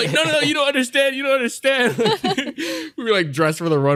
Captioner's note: laughter